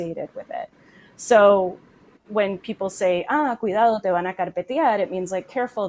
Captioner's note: speaks in foreign language